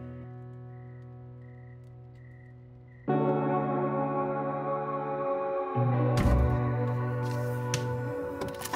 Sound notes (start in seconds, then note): 0.0 insects chirping; 3.0 gentle music